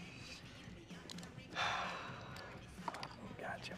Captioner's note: sighs